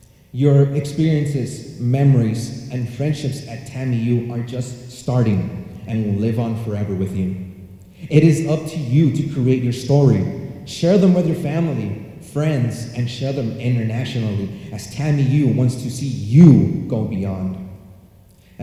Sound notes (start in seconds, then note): none